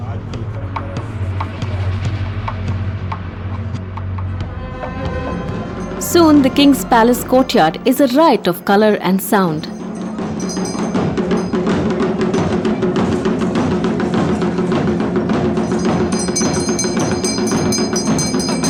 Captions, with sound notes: Soon, the king’s palace courtyard is a riot of colour and sound. (intense drumming) (bell jingling)